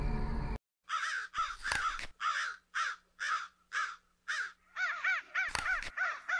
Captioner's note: crows cawing; fangs chomp